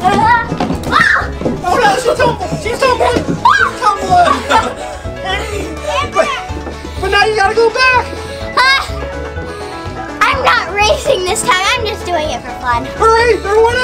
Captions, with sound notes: (screams) Oh no, she tumbled, she's tumbling! (laughing) But now you gotta go back! - I'm not racing this time, I'm just doing it for fun.